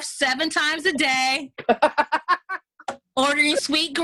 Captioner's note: laughs